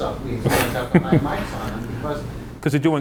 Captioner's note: laughing drowns out speaker